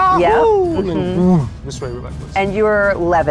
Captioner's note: whooshes